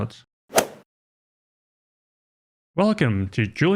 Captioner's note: golf ball hit sound effect